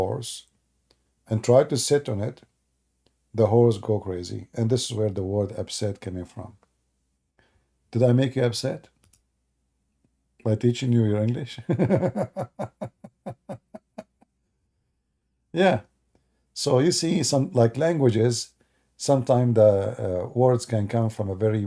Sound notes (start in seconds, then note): 11.6 Ketawa